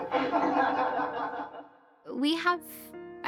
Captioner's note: class laughing